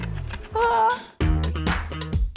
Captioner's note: makes nervous sound